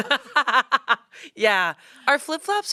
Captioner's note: laughs